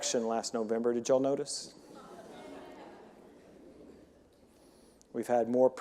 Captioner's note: audience members confirming